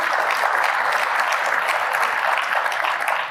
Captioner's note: applause